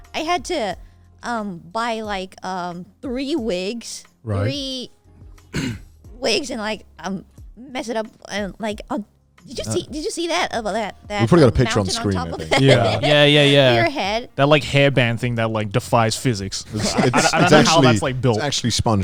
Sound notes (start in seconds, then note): 15.1 laughs